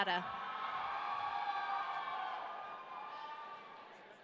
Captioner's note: audience cheering